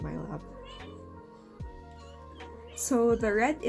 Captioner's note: Lucki meows